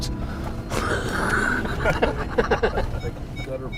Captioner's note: laughter